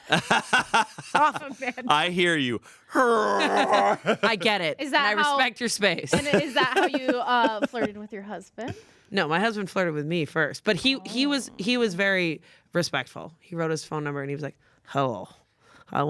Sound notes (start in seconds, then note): 0.0 everyone laughs; 2.8 groans